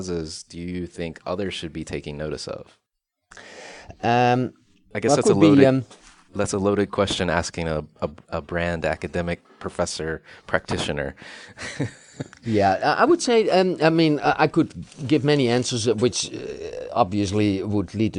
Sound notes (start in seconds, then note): 11.6 laughs